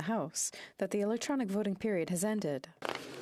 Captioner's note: speaking French